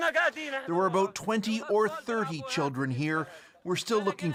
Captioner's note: speaking alternate language